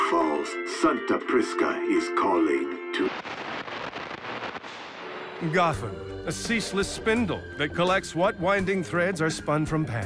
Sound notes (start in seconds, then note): 3.0 radio static